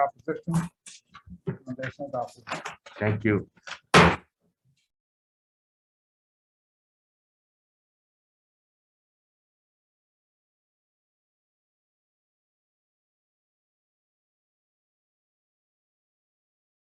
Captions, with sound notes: Any opposition. Recommendation adopted. - Thank you. (gavel slamming)